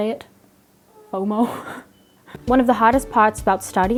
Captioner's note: laughs